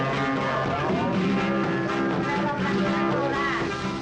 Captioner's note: people exclaiming